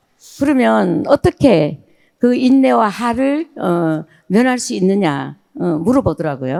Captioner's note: speaking in foreign language